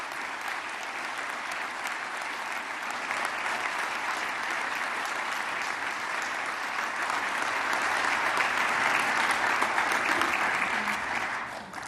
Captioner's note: applause